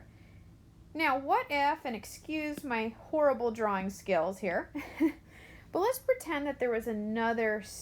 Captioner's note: chuckles